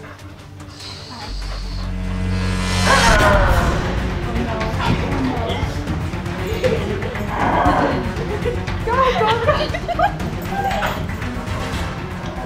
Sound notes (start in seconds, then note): 2.1 dramatic music; 7.4 screaming